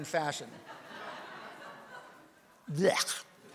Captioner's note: audience laughs